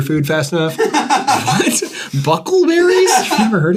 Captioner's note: laughter